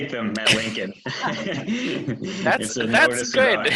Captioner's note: laughing